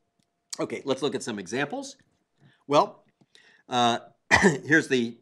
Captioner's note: cough